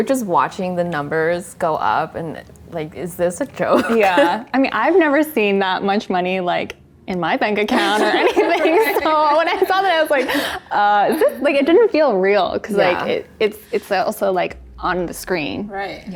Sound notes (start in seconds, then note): 3.7 laughs; 7.8 everyone laughs